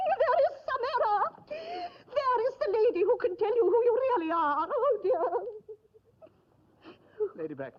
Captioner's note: sobs